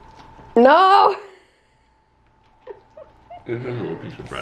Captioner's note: laughing